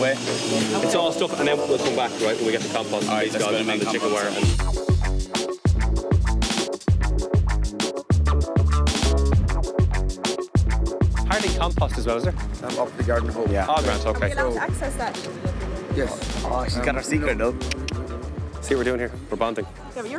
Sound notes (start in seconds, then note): 4.8 upbeat music; 17.6 clicks tongue twice